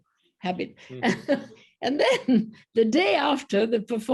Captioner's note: laughter